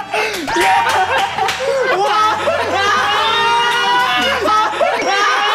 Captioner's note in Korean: 덩치 형들의 환호